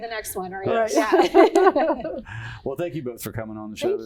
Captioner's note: laughing